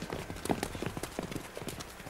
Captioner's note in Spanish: viento